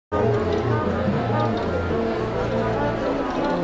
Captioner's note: chatter